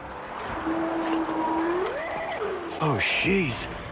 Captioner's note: howling